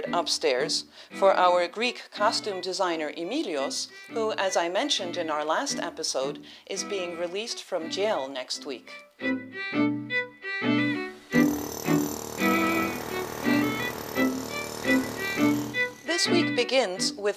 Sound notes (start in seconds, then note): 9.1 drilling noise in background